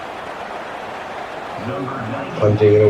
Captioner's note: crowd Noises